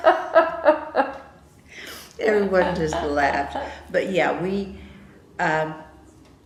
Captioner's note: laughter